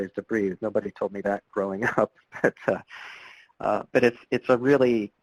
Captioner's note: laughs